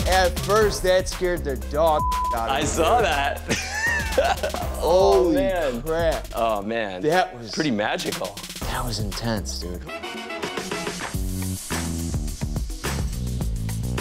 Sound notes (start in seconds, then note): 2.6 laughs